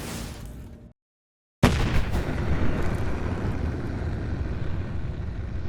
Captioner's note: thunder cracking